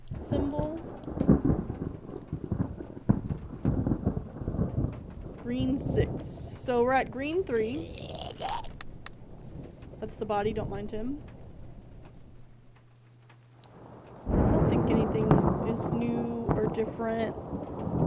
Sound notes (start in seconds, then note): 3.6 thunder Rumbling; 7.7 guttural Noises; 16.9 thunder Rumbling